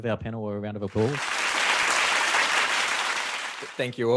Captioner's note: audience clapping